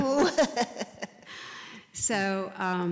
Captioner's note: laugh